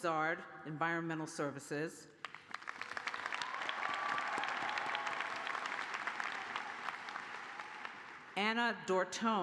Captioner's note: cheers and applause